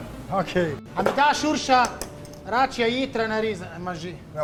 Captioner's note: speaks in Slovenian language